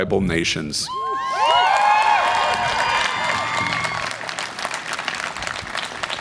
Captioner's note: audience applause and cheer